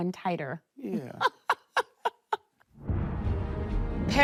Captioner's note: laughs; dramatic music playing